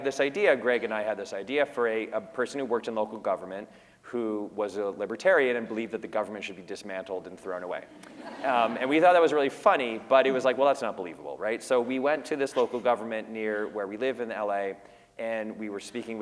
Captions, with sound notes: this idea, Greg and I had this idea for a person who worked in local government who was a libertarian and who believed that the government should be dismantled and thrown away. [laughter] >> And we thought that was really funny, but it was like, well that’s not believable, right? So we went to this local government near where we live in LA and we were speaking